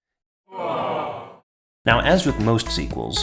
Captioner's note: crowd groans